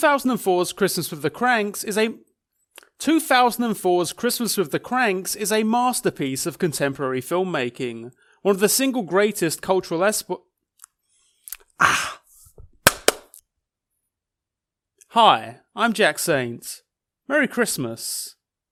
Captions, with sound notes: 2004's "Christmas with the Kranks" is a, 2004's "Christmas with the Kranks" is a masterpiece of contemporary filmmaking. One of the single greatest cultural expo... (exhales) (clapping) Hi, I'm Jack Saint, merry Christmas